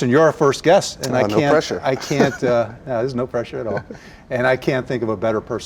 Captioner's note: chuckles